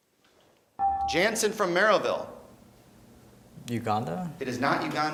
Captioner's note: beeping